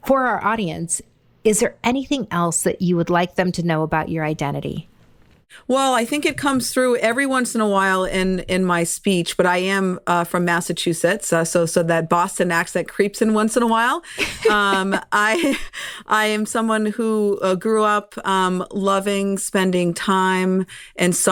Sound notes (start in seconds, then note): 14.1 chuckles